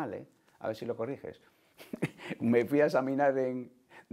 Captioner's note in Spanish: Ríe